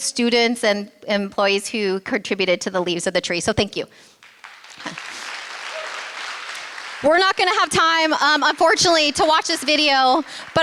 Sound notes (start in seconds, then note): 4.1 applause